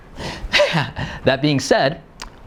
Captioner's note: laughing